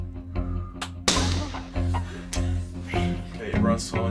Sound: gunshot

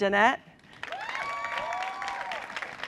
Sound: cheering and applause

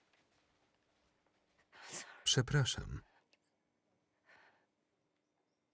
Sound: breaths heavily

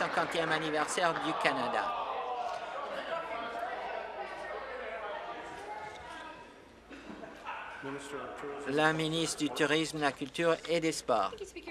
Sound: applause

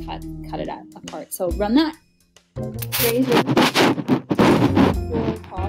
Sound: static crackling

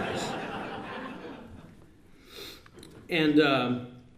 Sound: laughter

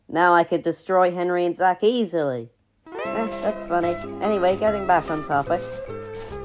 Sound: none

